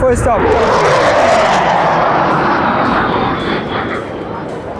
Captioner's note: engine roaring